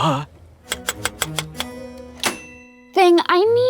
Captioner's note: keys tapping